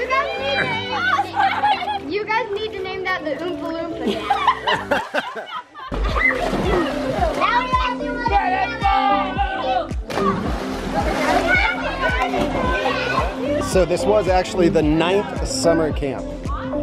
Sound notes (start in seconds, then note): 4.0 laughing; 6.4 kids chattering